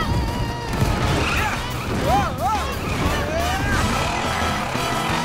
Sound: groaning

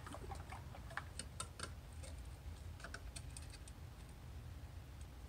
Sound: paint slosh; tapping

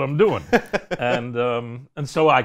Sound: laughs

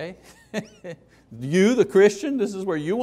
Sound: laughing

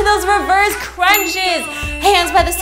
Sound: bell dings

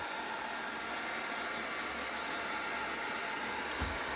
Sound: heat blowing

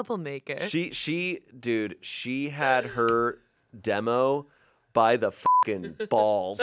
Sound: beep

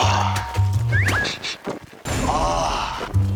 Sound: sniff sniff

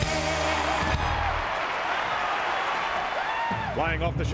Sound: cheering and applause

